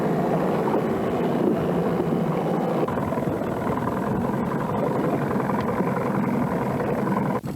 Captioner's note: water sounds